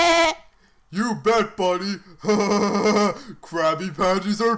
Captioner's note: laughs; laughs